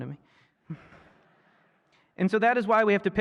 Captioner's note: laughter